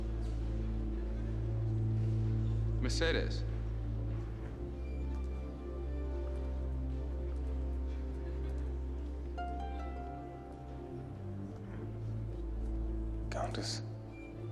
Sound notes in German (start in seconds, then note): none